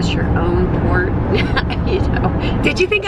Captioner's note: chuckles